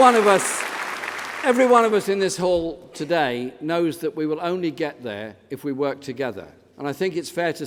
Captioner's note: applause